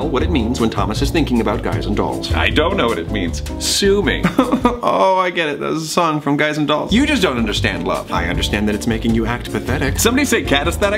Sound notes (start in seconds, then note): 4.2 sobs